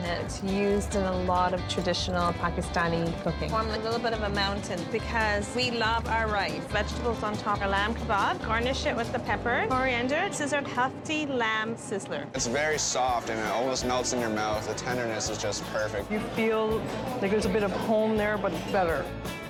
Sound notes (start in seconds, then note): none